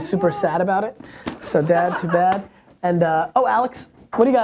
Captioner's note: laughs